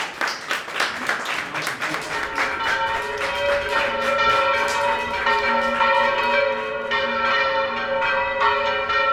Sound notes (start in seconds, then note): 2.2 rapid bell ringing